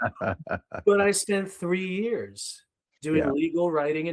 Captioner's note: laughing